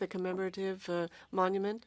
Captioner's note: speaking French